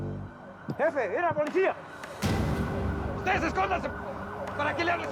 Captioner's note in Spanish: sirenas a la distancia